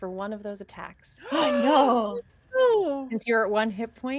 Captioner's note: players gasp